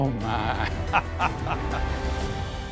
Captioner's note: laughing; soft music